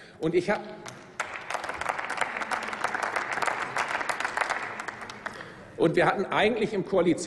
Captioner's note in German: Applaus